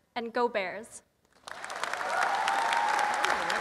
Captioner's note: applause